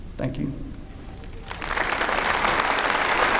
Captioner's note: applause